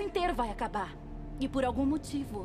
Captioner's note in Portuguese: none